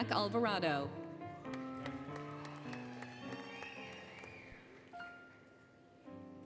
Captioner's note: applause, Cheering, Music